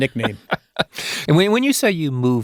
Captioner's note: laughing